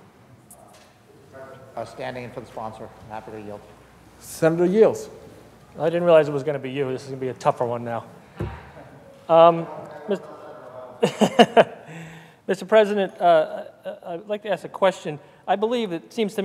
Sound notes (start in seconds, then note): 11.0 laughter